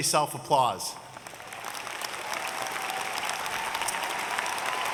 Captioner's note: audience cheering